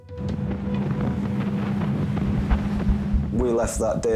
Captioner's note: outboard rumbling